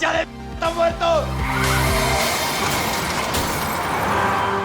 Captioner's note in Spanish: Chirrido de llantas; Estrépito